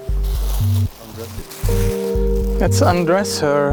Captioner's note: plastic crackles